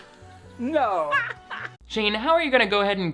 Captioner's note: woman laughing